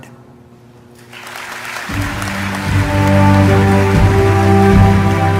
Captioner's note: applause and upbeat music